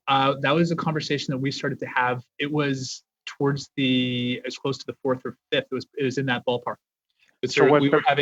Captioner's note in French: voix de l'interprète